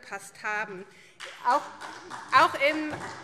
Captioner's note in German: Beifall SPD